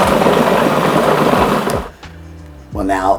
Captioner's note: appliance buzzing